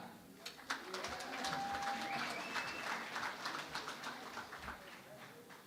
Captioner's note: applause